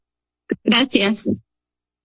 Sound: speaks in Spanish

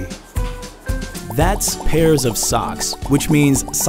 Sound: popping

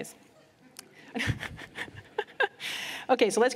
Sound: laughter

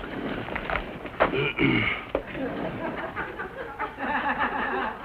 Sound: clears throat

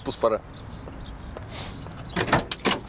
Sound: sniffs

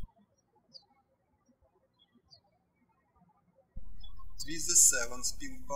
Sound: birds chirping

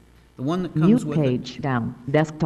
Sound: female voice

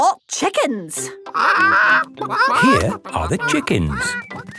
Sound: clucking

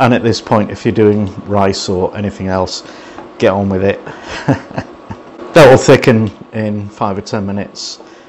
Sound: laughs

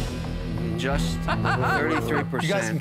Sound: laughs

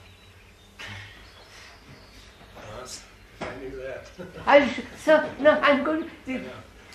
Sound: laughs

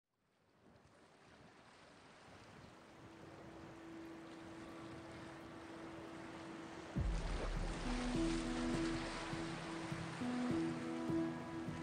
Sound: ocean sounds

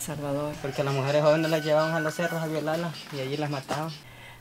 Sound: speaking Spanish

